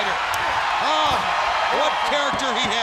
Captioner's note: crowd cheering